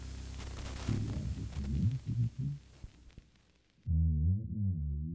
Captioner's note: muffled voice speaking